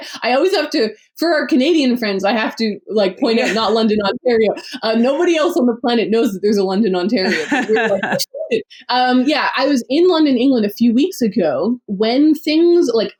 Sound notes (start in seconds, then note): 3.2 laughs; 7.2 laughs